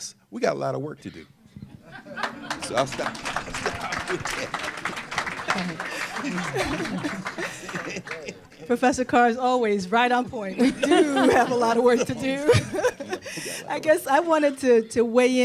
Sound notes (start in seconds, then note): 7.3 applause; 10.5 laughter